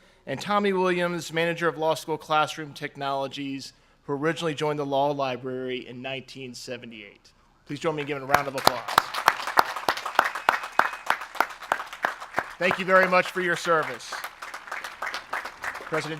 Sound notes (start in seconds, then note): 7.9 audience applauds